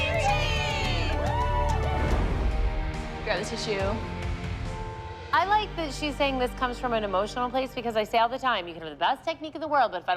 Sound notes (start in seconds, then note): 0.0 whooping